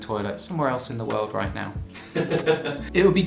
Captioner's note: laughs